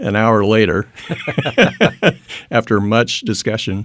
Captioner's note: laughing